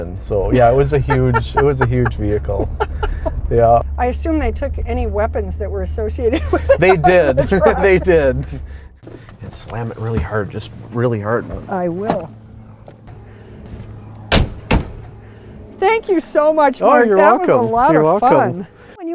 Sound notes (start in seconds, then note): 2.6 laughing